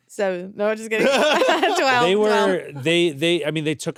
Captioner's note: laughs